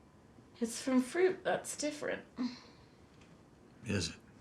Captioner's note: sighs